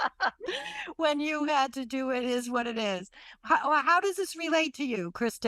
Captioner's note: laughs